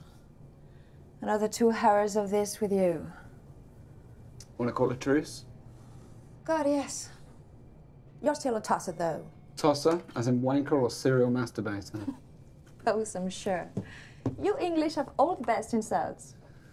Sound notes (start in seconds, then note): 11.9 Eloise laughing